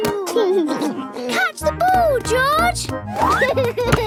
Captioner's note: giggles